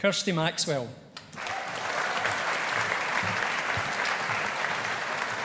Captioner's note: audience applauding